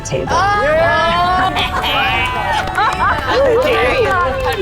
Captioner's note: group cheers